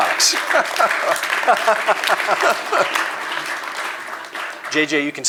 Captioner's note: applause